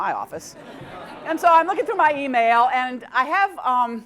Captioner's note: laugh